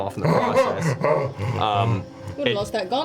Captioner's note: gasp